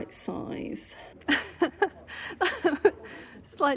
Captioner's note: laughing